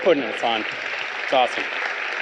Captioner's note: audience applauding